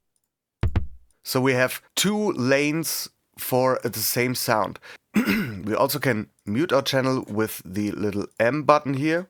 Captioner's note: clears throat